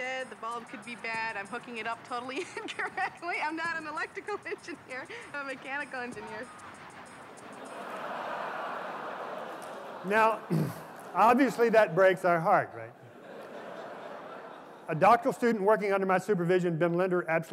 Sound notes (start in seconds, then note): 2.7 laughs; 7.5 laughter